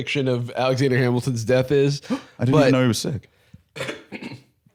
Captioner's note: gasps